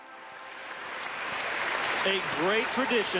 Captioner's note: audience applauding